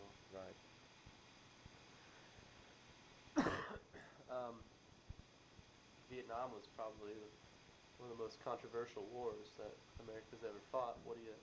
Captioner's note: coughs